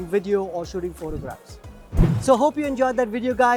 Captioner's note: whooshing